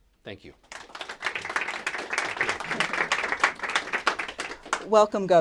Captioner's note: applause